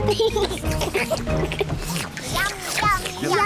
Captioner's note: all slurp